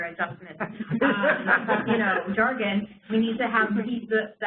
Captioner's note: laughter